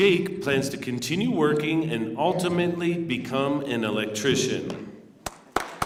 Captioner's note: applause